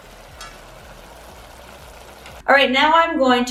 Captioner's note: pot bubbling